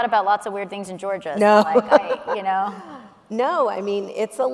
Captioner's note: laughs